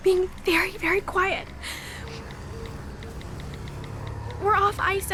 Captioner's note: sobs softly